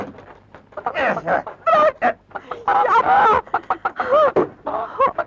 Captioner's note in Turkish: Tavuk gıdaklamaları